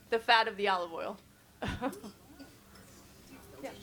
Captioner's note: chuckles